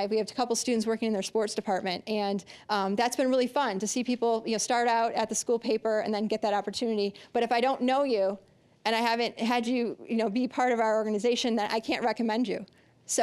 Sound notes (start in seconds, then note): none